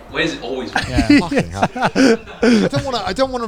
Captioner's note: all laughing